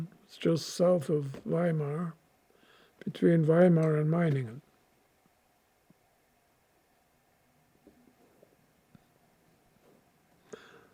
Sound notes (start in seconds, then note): 4.6 pauses 6 seconds